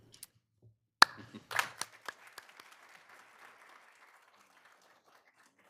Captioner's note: attendees applauding